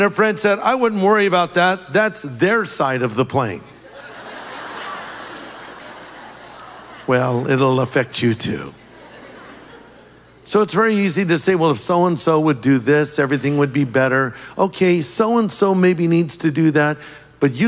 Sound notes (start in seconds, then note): 3.8 audience laughing